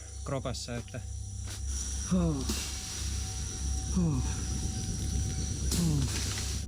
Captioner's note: painful animal sounds